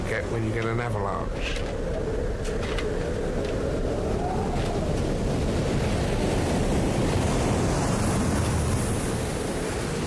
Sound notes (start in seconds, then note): 2.4 waves rumbling; 2.4 wind howling